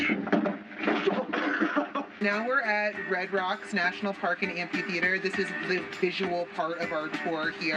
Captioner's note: laughter